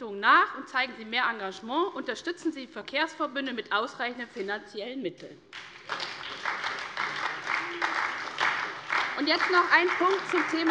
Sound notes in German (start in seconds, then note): 5.5 Beifall bei der SPD